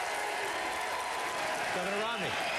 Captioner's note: applause